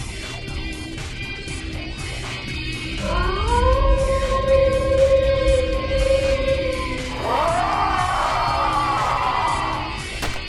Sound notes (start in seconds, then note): 2.5 howling; 7.4 screaming; 10.2 gunfire; 10.3 battle cries